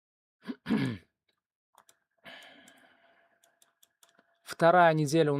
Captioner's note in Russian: откашливается